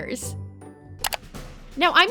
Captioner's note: clicking